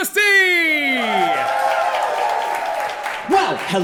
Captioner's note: audience cheering